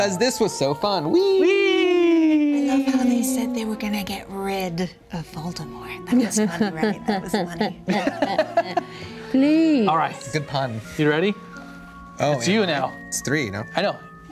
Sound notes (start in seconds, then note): 7.6 laughing